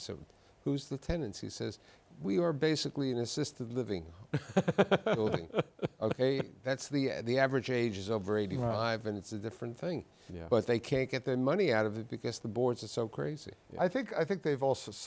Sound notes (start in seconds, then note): 4.3 laughs